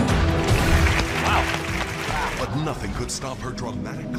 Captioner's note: audience applauding